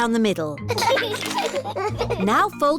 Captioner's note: both giggling